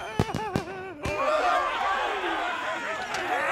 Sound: cheering

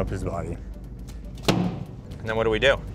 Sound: fish thuds

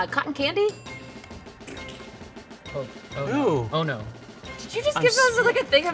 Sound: timer dinging

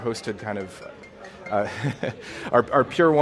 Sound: cell phone ringing; laughing

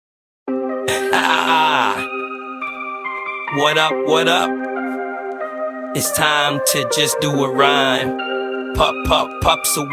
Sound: laughing

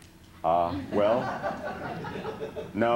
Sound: laughter

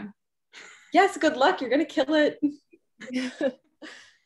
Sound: chuckles

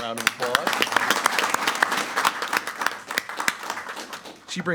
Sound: applauding loudly

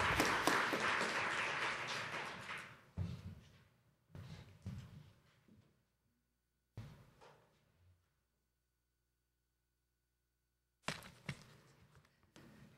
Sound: applause

